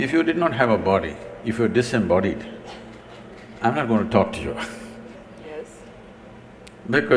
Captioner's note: laughs